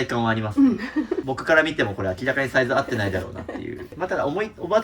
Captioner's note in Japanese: 笑い